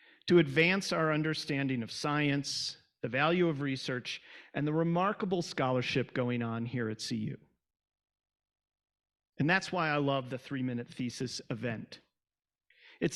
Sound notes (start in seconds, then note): none